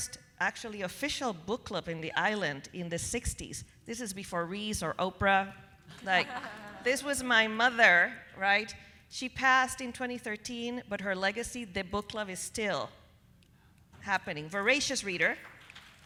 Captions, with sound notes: actually official book club in the island in the 60s, this is before Reese or Oprah, (people laughing) like this was my mother, right, she passed in 2013, but her legacy, the book club is still happening. Voracious reader.